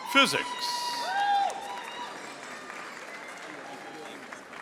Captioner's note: audience applauding